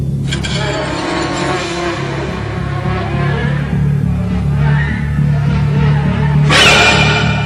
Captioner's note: more buzzing